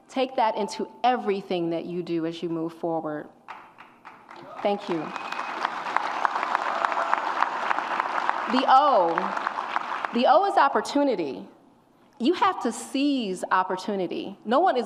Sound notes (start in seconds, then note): 4.8 audience applauds and cheers